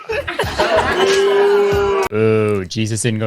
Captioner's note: group boos